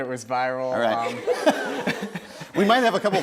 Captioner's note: laughs